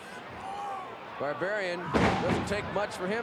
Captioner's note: mat slamming